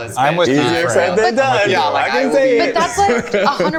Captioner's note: overlapping chatter